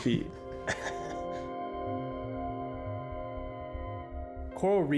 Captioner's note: chuckling